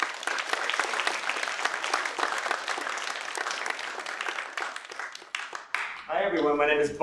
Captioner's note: applause